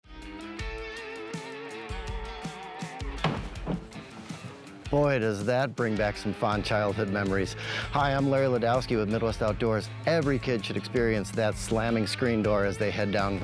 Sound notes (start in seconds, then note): 1.3 upbeat country music; 3.2 screen door slams